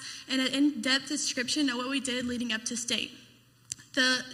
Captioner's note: none